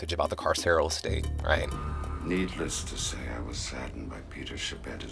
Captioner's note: soundbite of tv show, "oz"